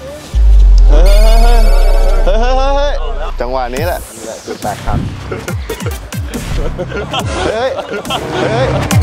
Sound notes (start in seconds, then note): 0.3 panics; 5.1 chuckles; 5.1 laughs